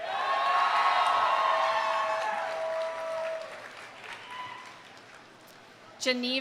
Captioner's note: audience cheering; audience applauding